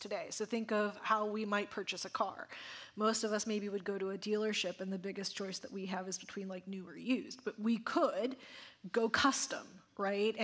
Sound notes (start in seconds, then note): none